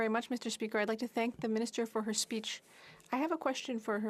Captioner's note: speaking French